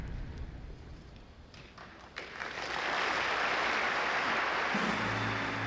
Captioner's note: audience applauds